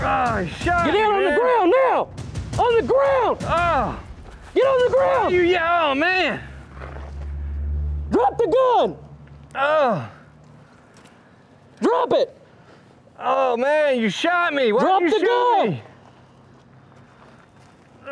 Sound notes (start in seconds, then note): 3.4 groans